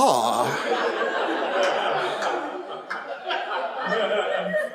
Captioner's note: audience laughs